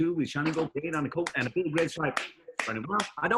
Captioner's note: clapping